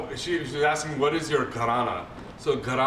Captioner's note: non-english